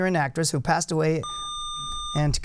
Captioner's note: buzzer